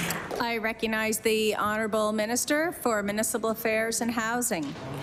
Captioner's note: applause